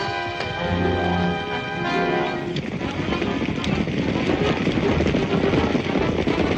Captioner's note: dramatic music continues; hooves clomping